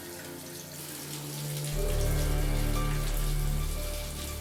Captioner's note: water splashing